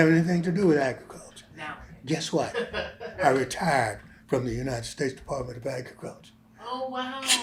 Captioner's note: laughs